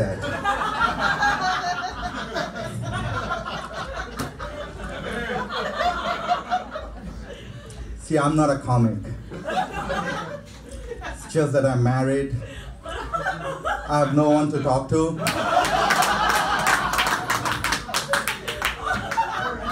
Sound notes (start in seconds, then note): 0.0 audience laughing; 9.1 audience laughing; 13.0 audience laughing; 15.2 audience laughing and clapping